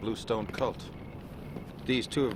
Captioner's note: footsteps